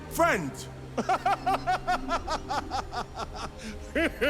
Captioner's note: Eggman laughs maniacally